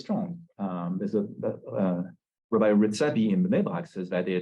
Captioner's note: Hebrew